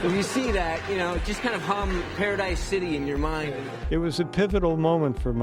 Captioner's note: laughter